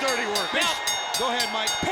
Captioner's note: bell rings